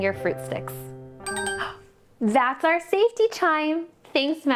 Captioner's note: chime